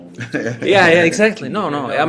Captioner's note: laughter